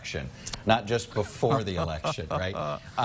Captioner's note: laughing